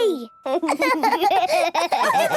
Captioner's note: giggling; laughs, snorts